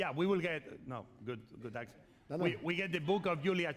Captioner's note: speaking spanish